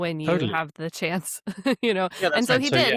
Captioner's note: chuckles